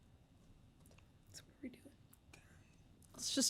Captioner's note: faintly speaking